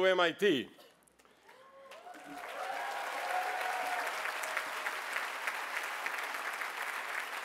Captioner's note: cheering